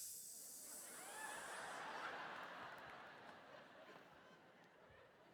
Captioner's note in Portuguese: audience laughing